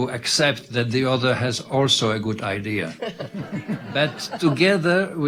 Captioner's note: audience laughing